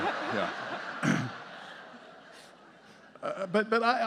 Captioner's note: audience laughing